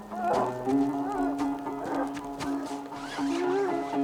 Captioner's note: Eddy grunting